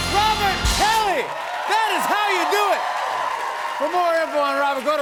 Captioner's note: cheers and applause